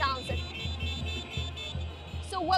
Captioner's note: beeping